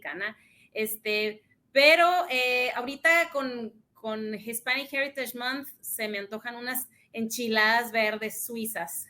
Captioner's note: speaks in Spanish